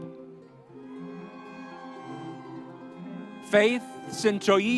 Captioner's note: audience cheering